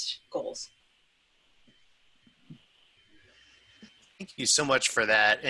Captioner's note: silence